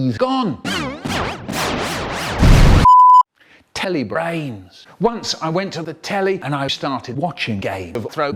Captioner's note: explosion; beep